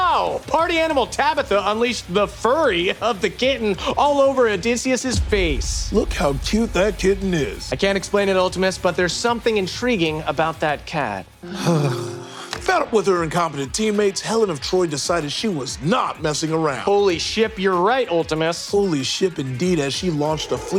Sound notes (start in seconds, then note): 11.4 Dynymis moans dreamily